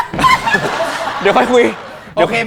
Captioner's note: Hahaha